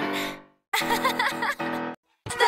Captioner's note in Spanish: ríe